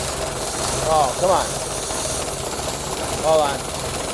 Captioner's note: engine idles